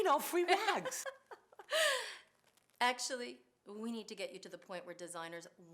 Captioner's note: laughing